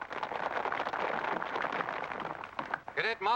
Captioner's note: applause